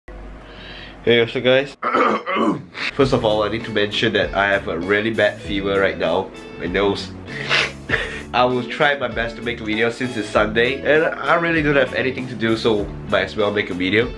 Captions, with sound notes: Hey What´s Up Guys *Coughing intensifies* [Sniff] First of all i need to mention that i have a really bad fever Right Now my nose [sniff ._.] i will try my best to make a video since it´s sunday and.. i don´t have anything to do so... my as well make a video